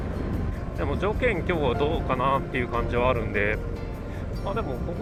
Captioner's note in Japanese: 風が強い